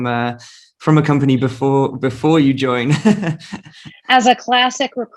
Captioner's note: laughing